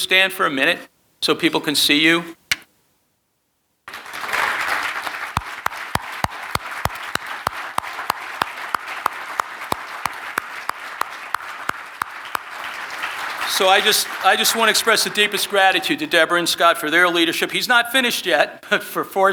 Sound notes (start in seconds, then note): 4.1 audience clapping